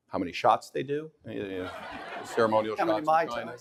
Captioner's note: audience laughing